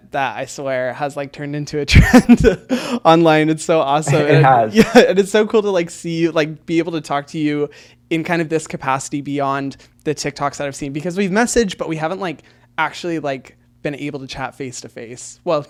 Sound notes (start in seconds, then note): 4.1 laughs